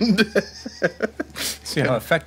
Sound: laughing

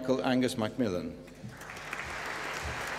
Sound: applause

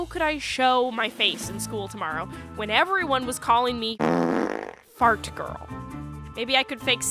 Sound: fart

